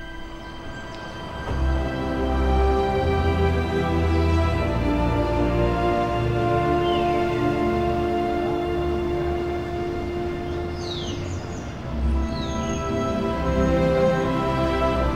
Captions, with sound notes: (BIRDS CHIRPING) ♩Romantic music score plays♩